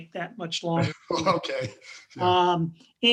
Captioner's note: laughs